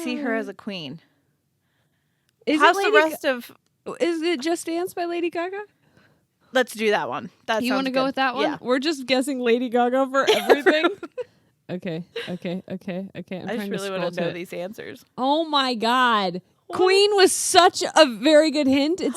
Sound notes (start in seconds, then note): 10.2 laughing